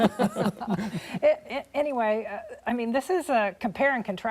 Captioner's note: laughter